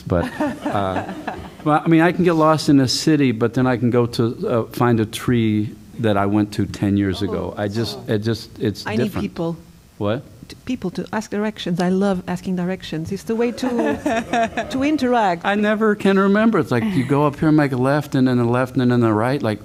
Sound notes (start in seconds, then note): 13.5 laughter